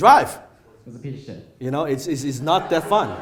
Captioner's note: audience laughs